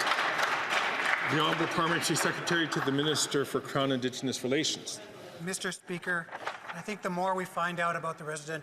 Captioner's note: some Applause